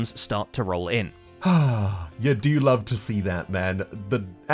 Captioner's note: content sigh